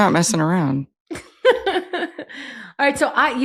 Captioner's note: laughs